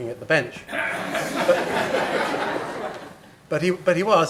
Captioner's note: laughter